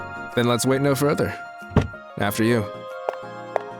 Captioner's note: opens Car door